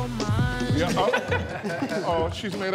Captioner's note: group chuckling